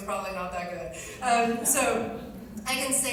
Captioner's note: laughter